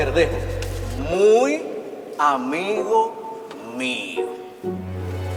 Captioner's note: speaking slowly